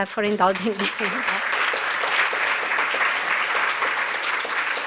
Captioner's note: applause